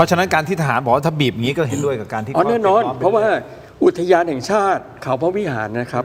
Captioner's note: clears throat